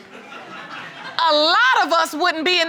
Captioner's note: audience laughing